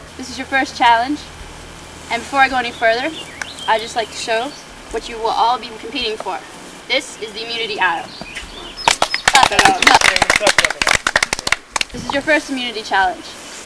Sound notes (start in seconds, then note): 8.8 clapping